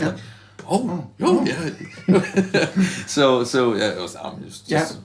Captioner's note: laugh